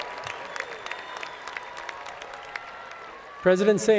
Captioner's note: cheers and Applause